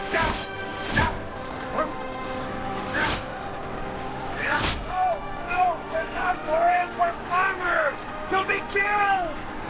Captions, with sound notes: - (metal clanging) - No! No, we're not warriors, we're farmers! You'll be killed!